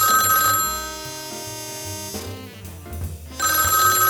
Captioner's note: phone rings